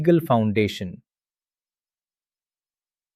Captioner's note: pause